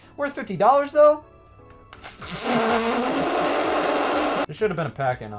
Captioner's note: narrator makes ripping noise with his lips